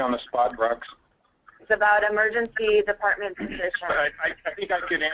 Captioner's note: voiceover